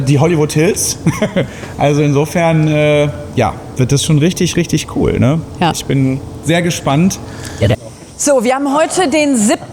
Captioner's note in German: gelächter